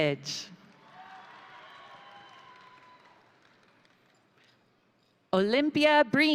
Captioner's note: crowd applauding; crowd cheering